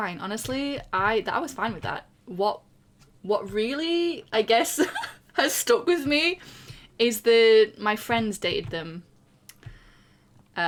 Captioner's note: laughs